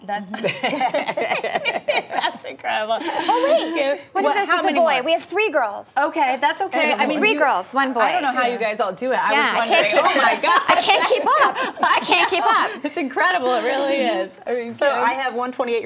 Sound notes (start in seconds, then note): 9.7 laughter